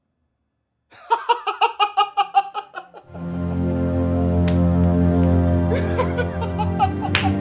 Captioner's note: Joe laughing hysterically; dramatic orchestral music